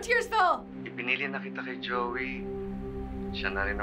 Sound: dad speaking Filipino

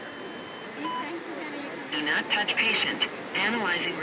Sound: beeps

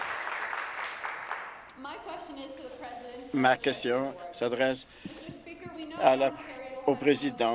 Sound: applause

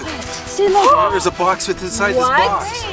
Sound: girls gasp

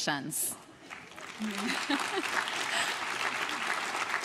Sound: crowd claps

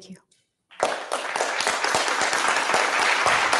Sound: applause

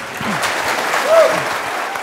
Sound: applause

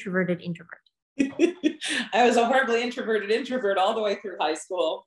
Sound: laughs

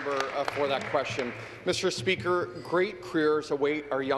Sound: applause

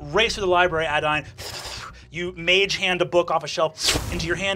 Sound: flutters

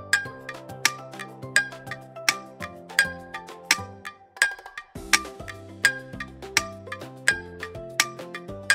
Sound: clock

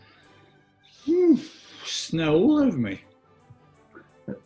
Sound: exhales

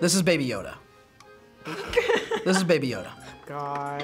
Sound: laughs

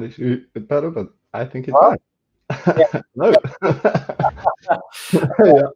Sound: chuckles

